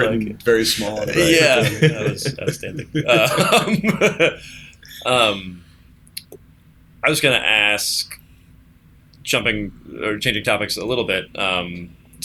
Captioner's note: laughter